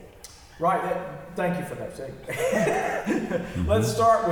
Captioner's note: laughs